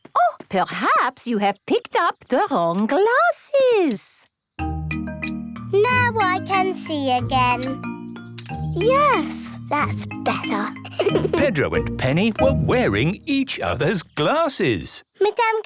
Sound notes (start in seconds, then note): 10.2 giggling